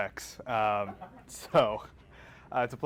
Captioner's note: audience laughing